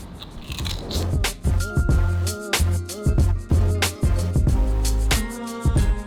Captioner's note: mellow music; humming